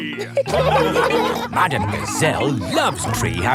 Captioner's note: laughing